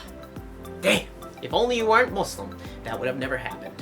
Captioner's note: nerdy voice